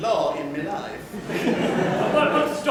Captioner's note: laughter